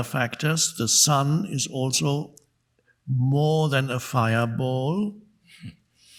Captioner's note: chuckles